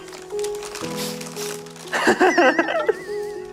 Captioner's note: sniff sniff